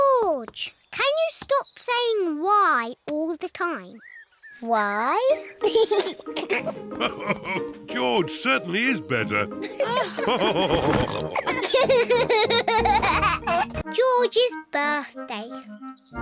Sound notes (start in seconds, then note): 5.3 laughs; 5.4 giggles; 9.6 all laughing